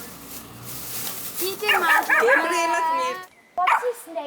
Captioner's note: in Georgian